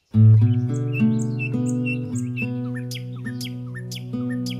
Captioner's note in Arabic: تغريد الطيور